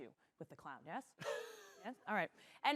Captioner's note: chuckles